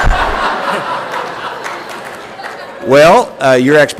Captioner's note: laughter and Applause